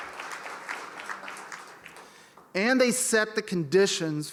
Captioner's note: applause